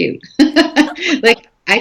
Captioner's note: laughing